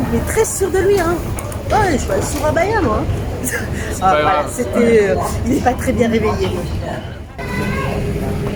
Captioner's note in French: rires